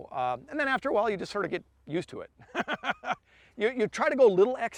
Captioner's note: laughs